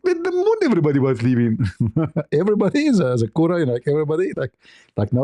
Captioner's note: ketawa